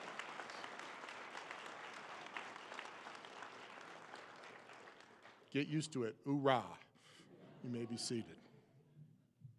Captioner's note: applause